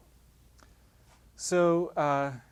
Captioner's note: pause